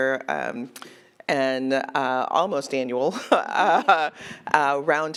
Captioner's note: laughs